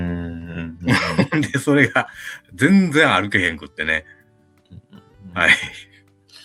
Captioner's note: laughs